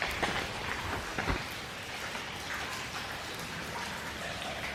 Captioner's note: dripping water